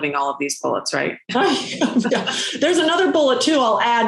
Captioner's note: laughing